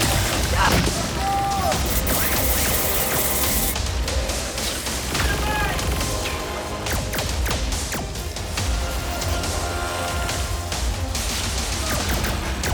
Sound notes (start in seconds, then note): 2.5 energy crackling; 7.2 lasers firing